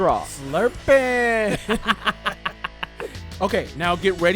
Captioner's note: laughing